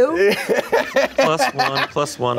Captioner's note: laughs